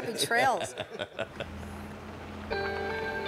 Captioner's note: laugh